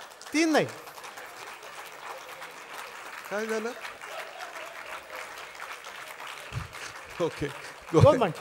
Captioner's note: laughter and Applause